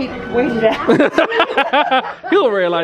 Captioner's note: pair laughing